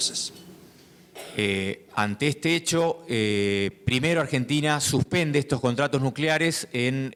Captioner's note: speaking in foreign language